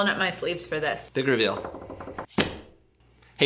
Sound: tapping; book slams

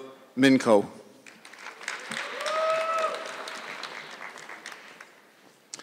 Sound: audience clapping

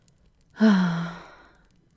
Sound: she sighs resignedly

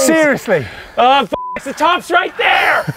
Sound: beep

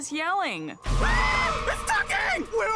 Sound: they yell again

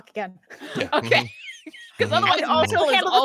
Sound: laughs

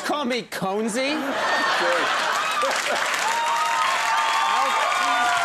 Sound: audience laughs

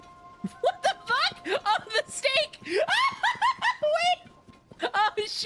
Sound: laughter

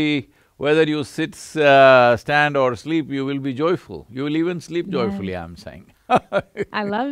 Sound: laughs

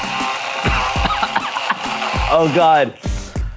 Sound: mixer buzzing; coughs

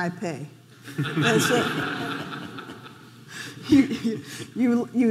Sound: audience laughing

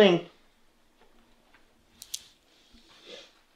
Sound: soft footsteps in the hallway

